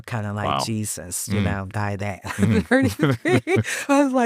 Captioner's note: chuckles